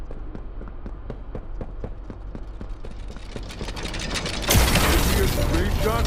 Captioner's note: gun firing